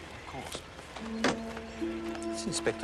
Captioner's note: Pintu mobil tertutup